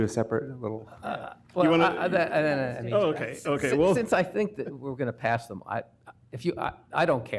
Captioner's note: laughter